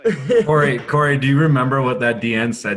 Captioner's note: all laugh